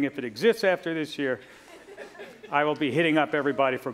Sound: laughter

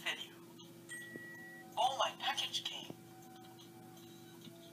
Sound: ding

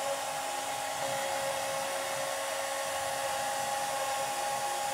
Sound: CNC machine cutting

